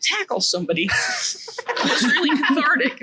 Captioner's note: laughs